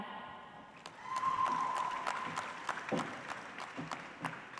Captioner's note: audience applauds